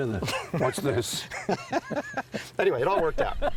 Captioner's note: laughs